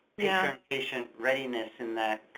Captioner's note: voiceover